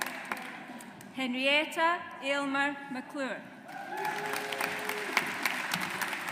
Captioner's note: audience applauds